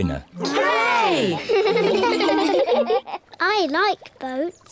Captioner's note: giggle